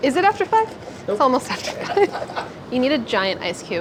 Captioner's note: laughing